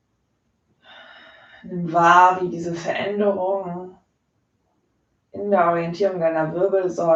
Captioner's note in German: seufzt